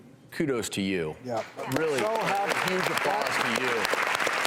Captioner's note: applause